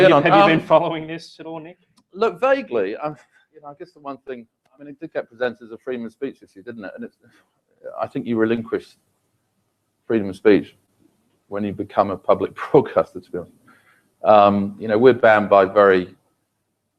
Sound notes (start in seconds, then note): 12.6 laugh